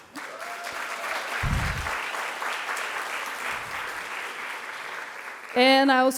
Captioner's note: audience clapping and cheering